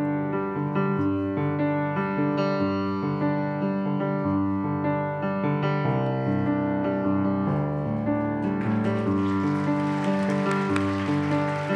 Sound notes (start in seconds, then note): 8.4 applause